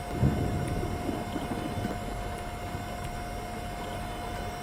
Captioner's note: thunderstorm continues